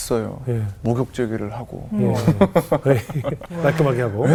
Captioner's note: laughing